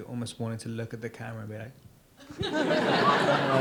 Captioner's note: audience laughs